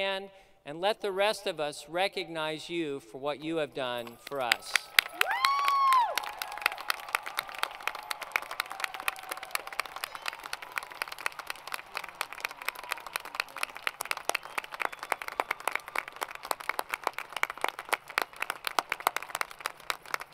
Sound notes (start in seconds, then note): 5.0 crowd Cheering; 6.3 applause